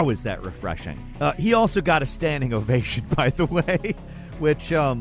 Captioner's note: laughs